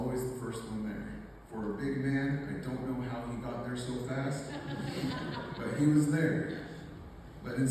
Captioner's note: laughter